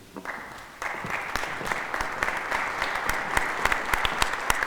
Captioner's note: audience applauding